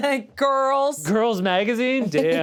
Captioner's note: laughs